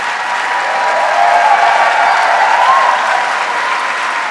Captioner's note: audience cheering